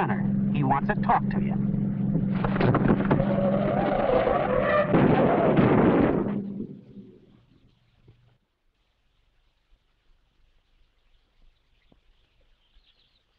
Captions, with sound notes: He wants to talk to ya. (tires screeching) (car crashes)